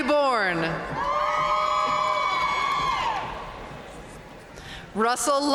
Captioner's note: audience cheering and applauding